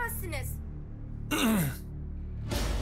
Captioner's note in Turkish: Boğaz temizleme sesi